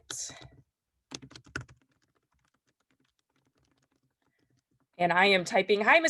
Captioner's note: keyboard clattering